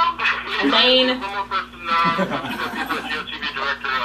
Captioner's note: laughing